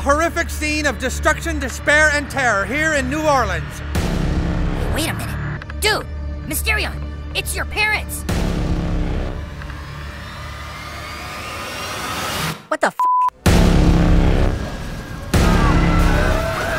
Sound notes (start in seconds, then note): 8.8 suspenseful music; 12.9 beep; 13.4 suspenseful music